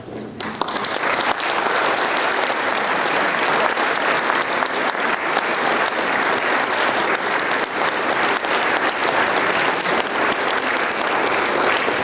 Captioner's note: applause